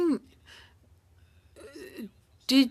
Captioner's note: speaking French